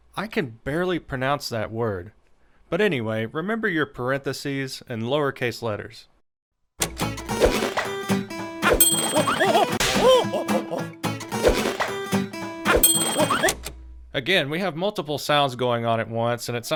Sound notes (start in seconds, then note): 6.9 buoyant music; 8.6 gorilla hooting; 8.8 bell dings; 12.8 bell dings